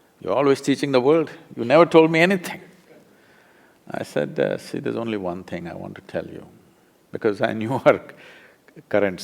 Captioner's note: laughs